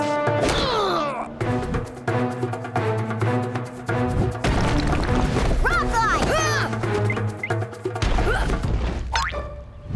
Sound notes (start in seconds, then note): 0.5 grunting; 8.2 grunting